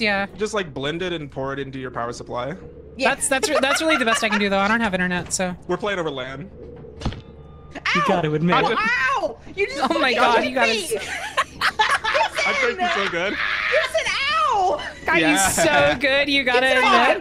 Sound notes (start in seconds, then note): 3.2 laughs; 6.9 shovel hit; 9.6 all laugh